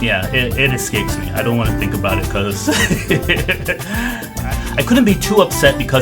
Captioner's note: laughs